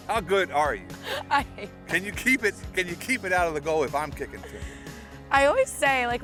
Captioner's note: laughter